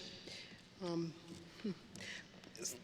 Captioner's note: none